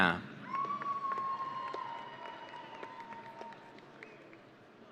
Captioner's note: audience cheering